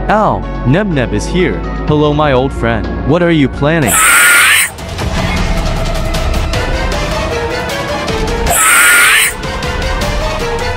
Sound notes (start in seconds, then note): 3.8 screaming; 8.4 screaming